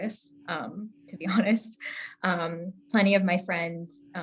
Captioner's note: chuckles